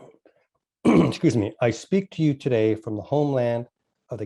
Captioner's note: clears throat